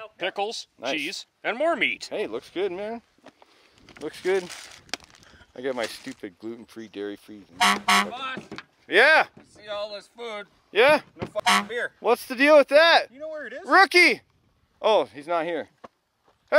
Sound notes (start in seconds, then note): 7.5 honking; 11.3 honking